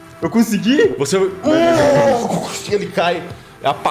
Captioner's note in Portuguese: Urgh!